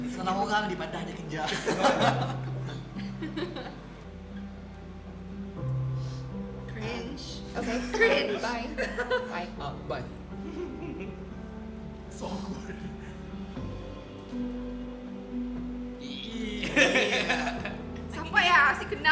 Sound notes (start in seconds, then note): 7.6 sobbing